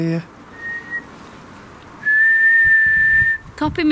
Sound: whistles

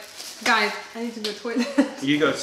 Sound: laughter

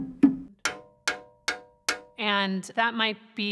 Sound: thumb piano playing; metal clanking

